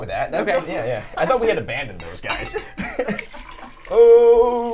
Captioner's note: laughs